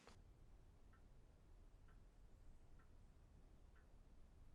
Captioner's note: clock ticking